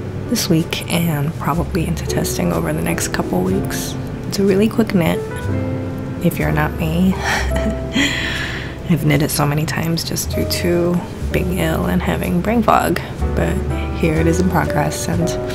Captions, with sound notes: this week and probably into testing over the next couple of weeks. It's a really quick knit if you're not me [laughter.] I have made it so many times just due to being ill and having brain fog. But here it is in progress and